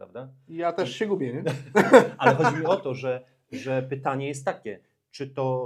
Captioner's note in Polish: śmiech